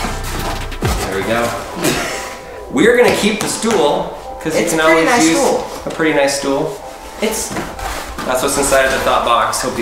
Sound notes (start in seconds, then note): 1.8 laughing